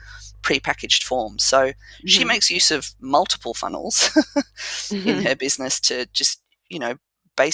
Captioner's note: laugh